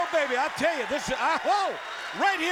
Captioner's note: crowd cheering